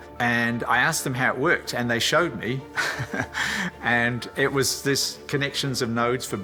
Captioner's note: laughs